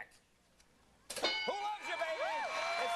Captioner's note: bell dinging